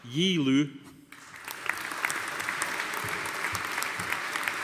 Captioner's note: audience applauding